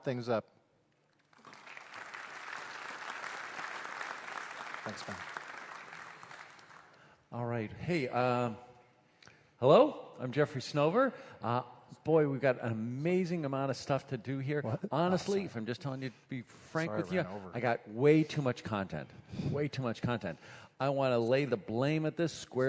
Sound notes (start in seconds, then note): 5.0 applause